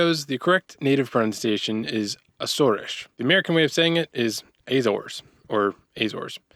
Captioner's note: southern accent